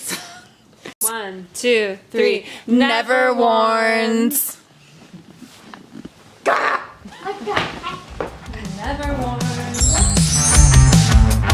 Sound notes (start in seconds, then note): 1.0 laughs; 7.2 grumbles; 11.3 upbeat music